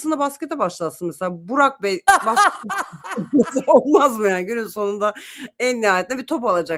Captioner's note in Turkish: kahkaha